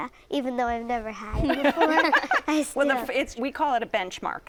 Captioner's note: laughter